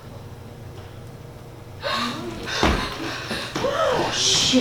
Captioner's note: everyone gasps